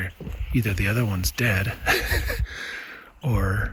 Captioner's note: laughing